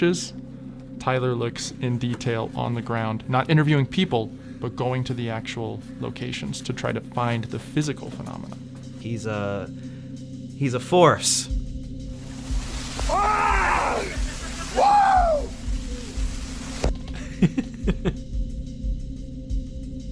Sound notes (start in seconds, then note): 13.0 screams; 17.1 giggles